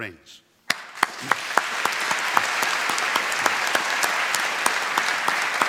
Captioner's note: applause